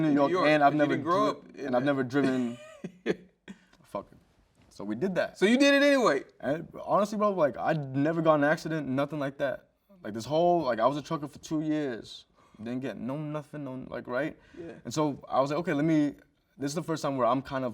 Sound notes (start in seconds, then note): 2.2 host chuckles